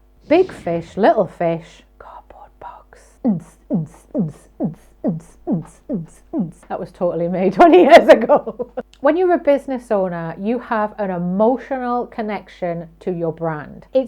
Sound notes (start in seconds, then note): 3.2 upbeat beatboxing; 7.6 laughing